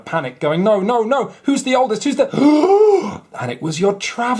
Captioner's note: gasp